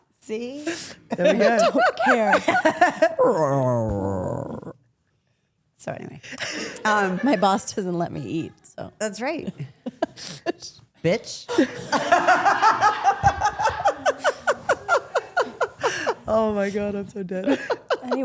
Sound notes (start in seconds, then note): 3.2 Steph imitates stomach growl; 11.5 group laughs